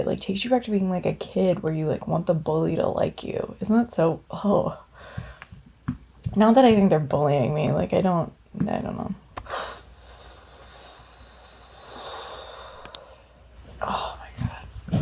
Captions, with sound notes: It like takes you back to being like a kid where you like want the bully to like you. Isn't that so, oh. Not that I think they're bullying me, like I don't know. (exhales audibly) Oh my God,